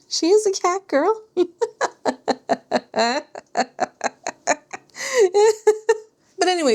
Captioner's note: laughter